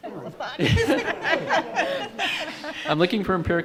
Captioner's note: group chuckling